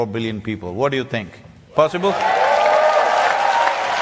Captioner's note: cheering/Applause